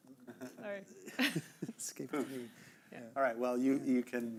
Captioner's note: chuckling